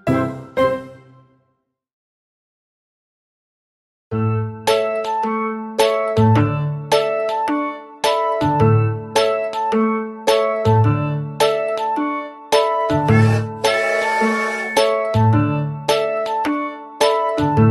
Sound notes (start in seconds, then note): 4.3 upbeat music; 13.1 train tooting